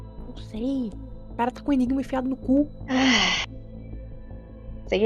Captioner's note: sighs